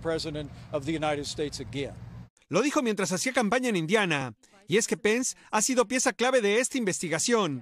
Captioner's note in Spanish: hablado en inglés